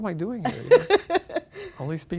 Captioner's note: laughing